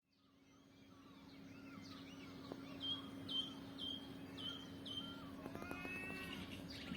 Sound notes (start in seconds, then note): 2.1 birds chirruping